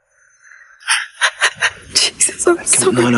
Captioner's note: Jodie sobbing